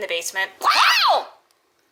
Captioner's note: Maggie and Dyna scream